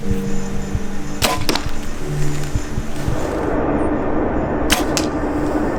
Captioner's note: arrow whooshing; arrow whooshing